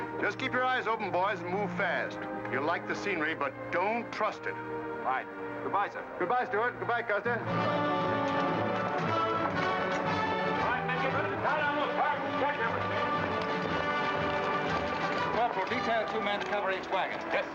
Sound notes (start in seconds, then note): 7.6 upbeat music; 10.7 men chattering